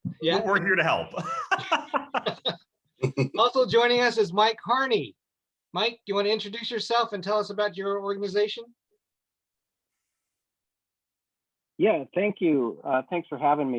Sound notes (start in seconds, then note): 1.1 laughs